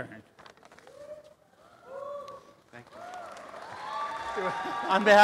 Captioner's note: applause and cheering